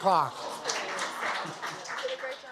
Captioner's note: applause